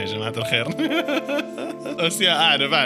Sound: laughter

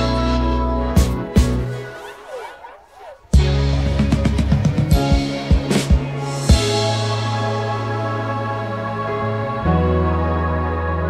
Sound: woo

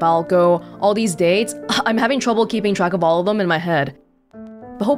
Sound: exhales

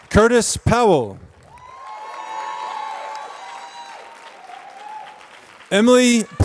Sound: applause

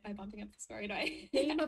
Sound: laughs

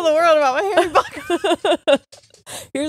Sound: both laughing

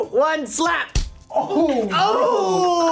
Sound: loud smack

